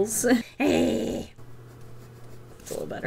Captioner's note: angry growl